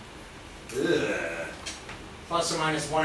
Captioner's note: groans with disgust